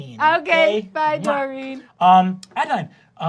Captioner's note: blows a kiss